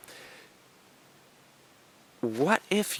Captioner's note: pause